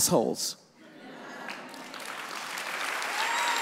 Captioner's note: audience laughs; audience applauds